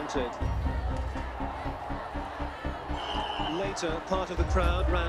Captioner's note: crowd shouting